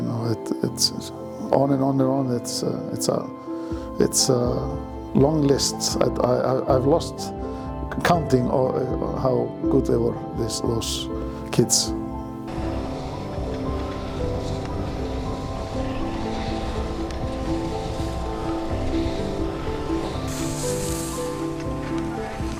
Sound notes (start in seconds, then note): 12.7 skis scraping; 17.8 majestic music